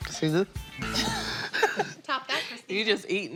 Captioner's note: laughs